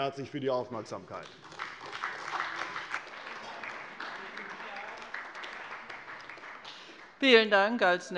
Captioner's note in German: Beifall bei der CDU und dem BÜNDNIS 90/DIE GRÜNEN